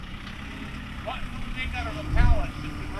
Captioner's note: engine running